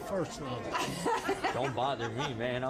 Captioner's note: laughs